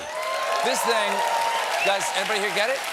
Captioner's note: cheers and applause